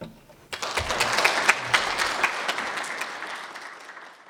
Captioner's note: class clapping